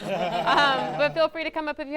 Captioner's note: all laughing